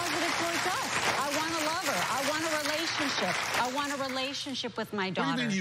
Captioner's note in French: applause